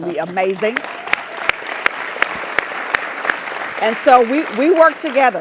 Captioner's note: applause